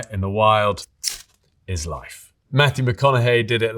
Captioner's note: fire steel clicking